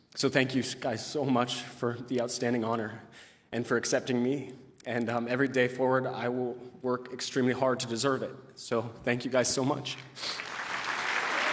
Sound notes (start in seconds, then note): 10.2 applause